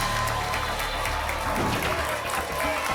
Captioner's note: whoosh; applause and cheering cont